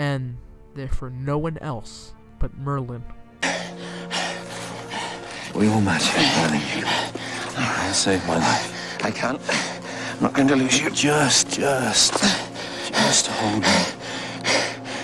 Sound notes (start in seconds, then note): 3.2 panting; 13.8 heavy panting